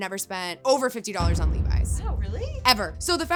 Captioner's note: thunder booming